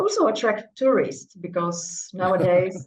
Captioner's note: chuckles